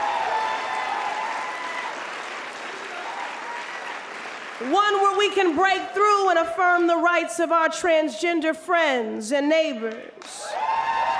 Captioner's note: applause